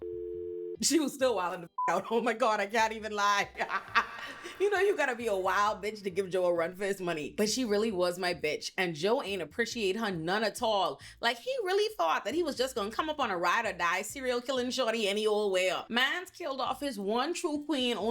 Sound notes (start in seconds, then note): 1.7 beep; 3.4 laughing